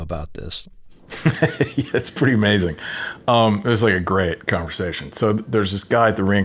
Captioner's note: laughter